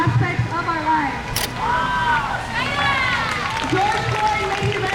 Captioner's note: crowd